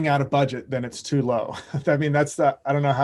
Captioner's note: chuckles